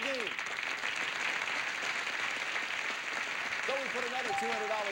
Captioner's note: audience applauding